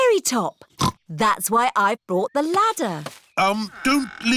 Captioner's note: snorts